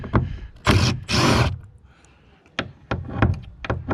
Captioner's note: hammer drilling